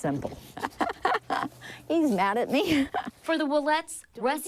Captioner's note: laughs